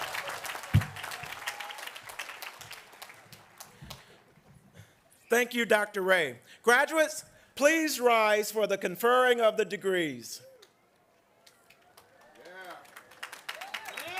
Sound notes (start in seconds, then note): 4.8 applause